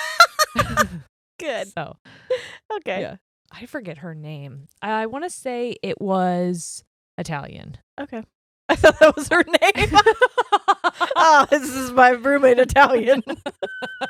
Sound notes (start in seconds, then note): 0.0 laughing loudly; 10.4 giggling quickly